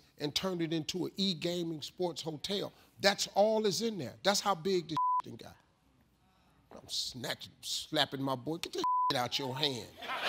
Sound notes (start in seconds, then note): 5.0 beep; 8.8 beep